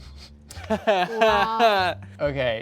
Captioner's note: laughs